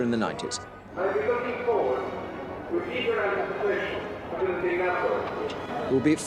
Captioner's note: Charles speaks foreign language